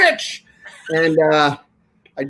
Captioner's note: laughing